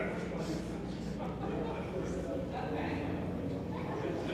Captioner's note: people chattering